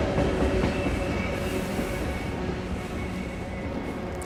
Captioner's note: train sound fades